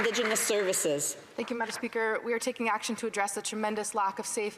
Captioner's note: some Applause